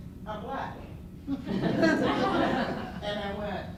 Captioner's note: laughter